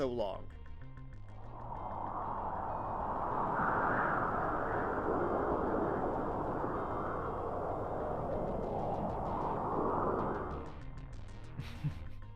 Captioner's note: brief silence as the winds softly blow; brief snicker